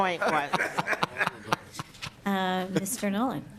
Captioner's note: laughing